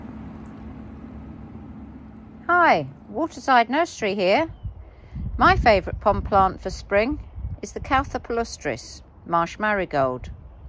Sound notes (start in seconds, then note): 4.5 wind whishing